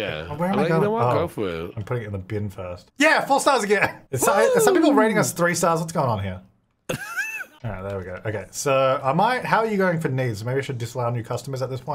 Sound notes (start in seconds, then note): 6.9 laughing